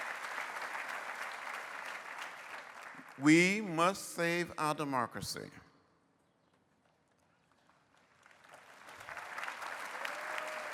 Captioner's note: applause